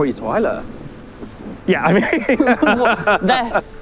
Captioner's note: laughs